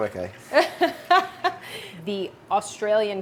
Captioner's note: chuckles